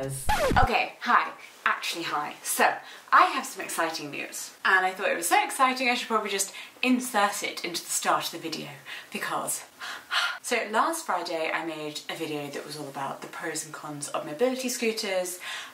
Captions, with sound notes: (record scratches) Okay, hi, actually hi. So I have some exciting news and I thought it was so exciting I should probably just insert it into the start of the video because (gasps), so last Friday I made a video that was all about the pros and cons of mobility scooters,